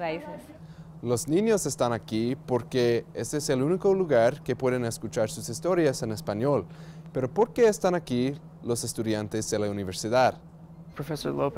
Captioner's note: speaking spanish